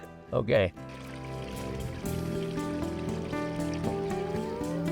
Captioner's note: streamwater falling; animals calling